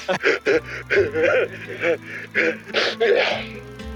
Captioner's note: sobs